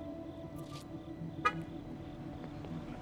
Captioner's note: car alarm activates